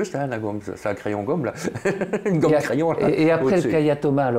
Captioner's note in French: rire